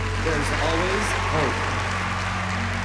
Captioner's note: cheering and applause